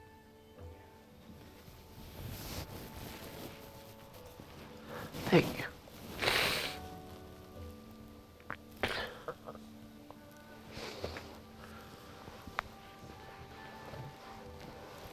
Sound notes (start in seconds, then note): 4.8 sniffles